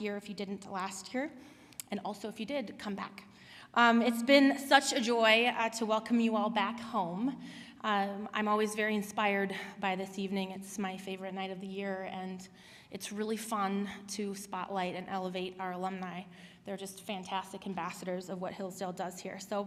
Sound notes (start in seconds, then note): none